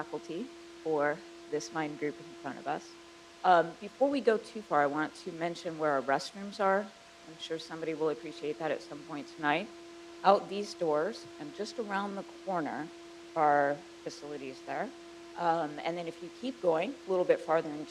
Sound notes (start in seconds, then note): none